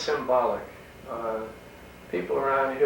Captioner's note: none